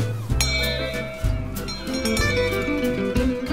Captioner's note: bells ringing